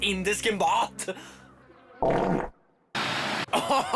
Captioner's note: farts; laughs